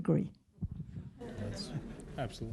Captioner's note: laughter